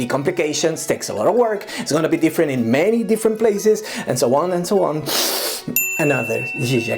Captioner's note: sniff